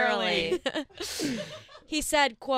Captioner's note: laughing